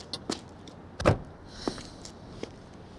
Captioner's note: sighs